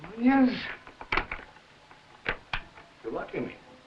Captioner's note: door locking